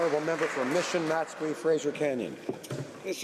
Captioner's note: applause